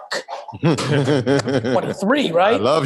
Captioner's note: laugh